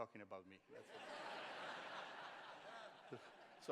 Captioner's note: laughter